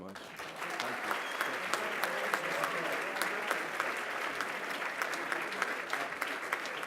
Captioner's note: applause